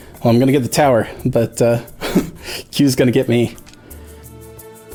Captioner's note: laughs